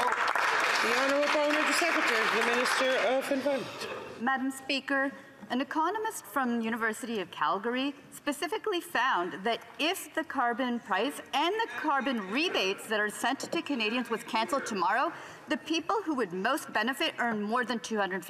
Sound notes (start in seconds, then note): 2.1 some Applause